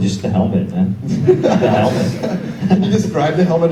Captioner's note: audience laughs